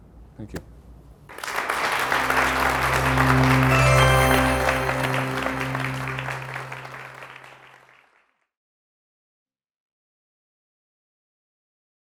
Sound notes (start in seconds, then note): 1.3 applause